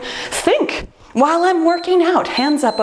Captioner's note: timer beeps